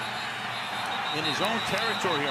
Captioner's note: whistle blows